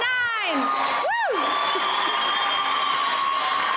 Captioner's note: cheering